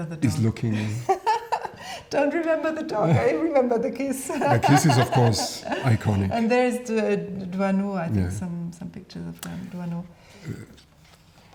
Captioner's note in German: lacht